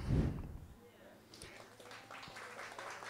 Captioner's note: applause